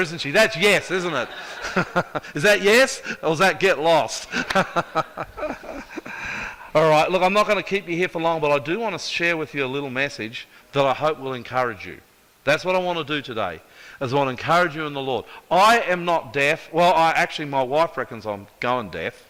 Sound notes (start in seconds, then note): 0.8 audience laughs; 4.2 laughter